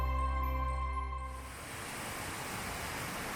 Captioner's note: sound of flowing water